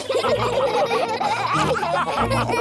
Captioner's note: all laughing